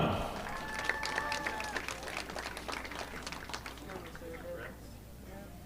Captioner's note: audience applauding